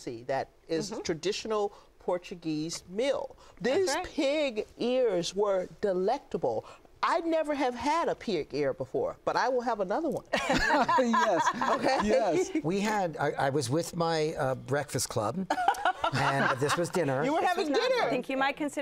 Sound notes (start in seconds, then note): 10.3 laughter